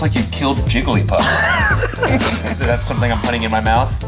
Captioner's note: laughs